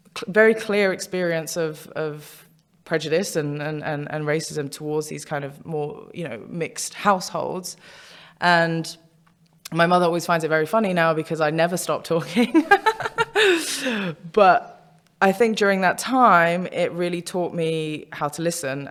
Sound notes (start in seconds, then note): 12.3 laughs